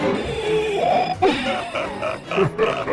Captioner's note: suspensful music; choking sounds; the laughter of madness